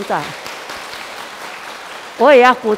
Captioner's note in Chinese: 眾人鼓掌